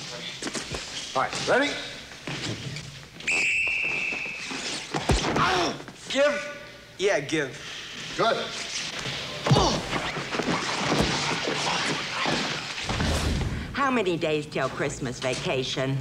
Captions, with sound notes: All right. Ready? [whistling] [grunting] - Give? - Yeah, I give. Good. [grunting] How many days till Christmas vacation?